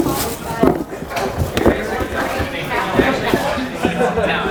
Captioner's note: chattering